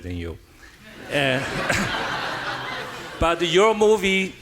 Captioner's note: audience laughing